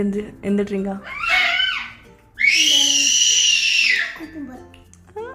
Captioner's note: baby crying